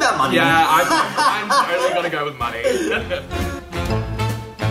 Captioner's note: laughs; playful music